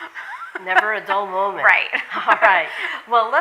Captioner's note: laughs